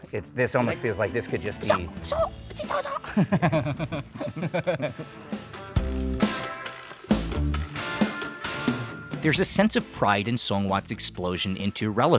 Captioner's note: kung Fu sounds